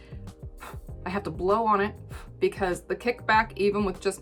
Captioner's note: blows